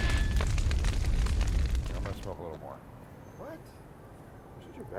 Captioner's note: kindling crackling